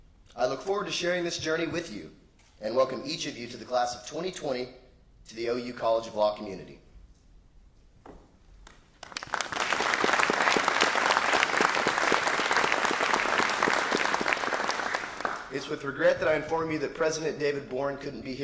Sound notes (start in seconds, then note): 11.5 applause